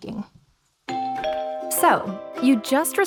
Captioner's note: doorbell ringing